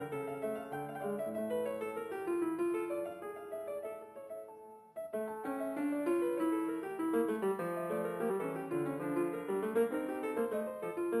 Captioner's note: speaking French